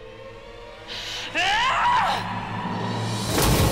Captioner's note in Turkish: Selcan sinirle bağırıyor